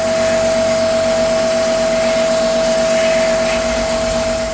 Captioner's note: machine whirring